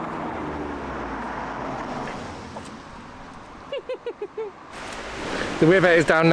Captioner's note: traffic noise